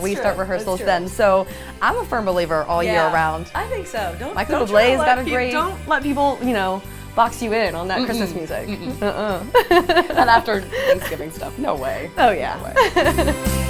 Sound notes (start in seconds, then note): 8.7 laughter